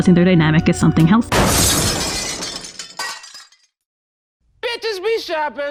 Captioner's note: glass smashing sfx